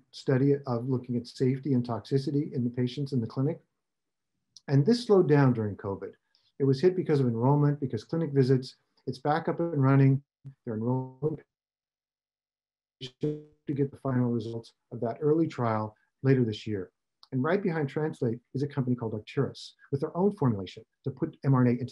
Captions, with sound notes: Translate Bio is in the Phase I study of looking at safety and toxicity in the patients in the clinic. And this slowed down during COVID. It was hit because of enrollment, because clinic visits. It's back up and running, their [audio out] to get the final results of that early trial later this year. And right behind Translate is a company called Arcturus,